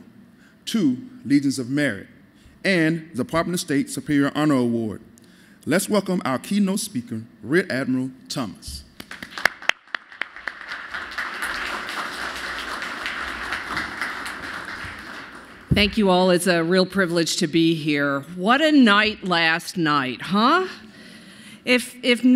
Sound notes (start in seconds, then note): 12.4 applause